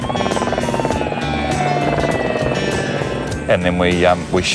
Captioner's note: siren